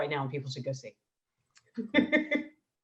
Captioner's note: laughing